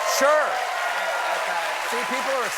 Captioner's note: applause